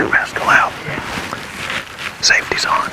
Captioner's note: whispering